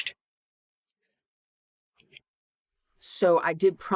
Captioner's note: no audio